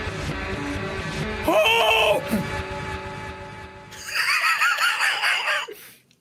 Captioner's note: laughs